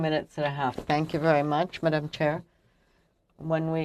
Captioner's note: speaking french